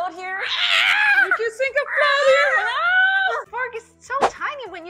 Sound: screaming

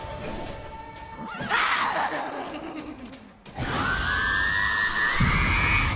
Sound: character laughing; character screaming and laughing

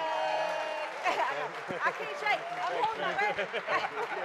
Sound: audience applause

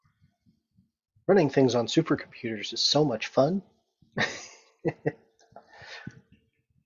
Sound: laughs

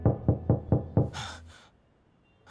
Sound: gasps

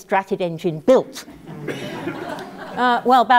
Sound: laugh

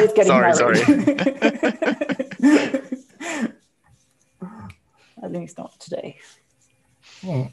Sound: laughs

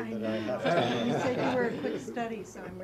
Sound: laugh

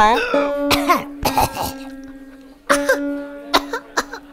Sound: coughing

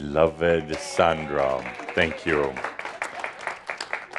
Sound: some applause

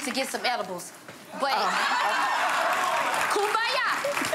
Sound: audience applauds and laughs

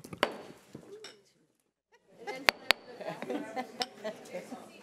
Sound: gavel banging; people laughing

